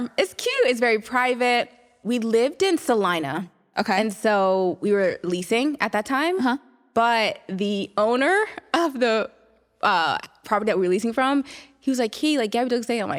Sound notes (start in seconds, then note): none